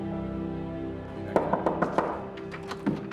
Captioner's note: knocking on door